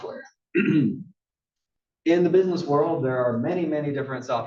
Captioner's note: cough